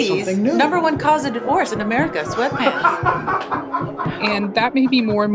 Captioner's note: laughs